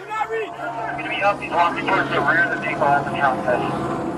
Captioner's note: radio chatter